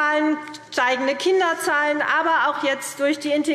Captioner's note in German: none